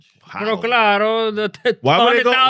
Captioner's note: speaking Spanish